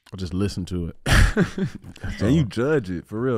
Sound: Iman laughing

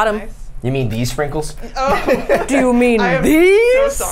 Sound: laughs

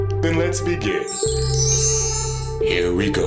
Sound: chimes tinkling

